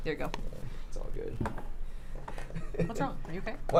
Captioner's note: laughs